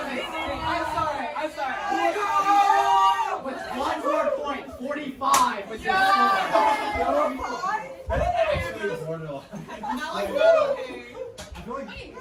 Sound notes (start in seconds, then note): 8.7 cheering